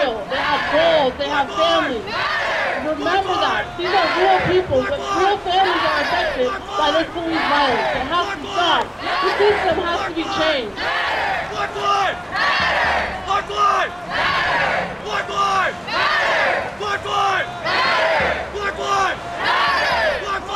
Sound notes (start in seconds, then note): 12.3 crowd